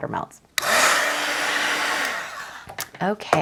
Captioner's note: blower whirring